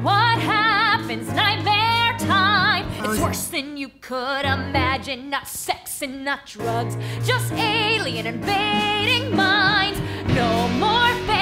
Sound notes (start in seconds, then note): 2.5 speaking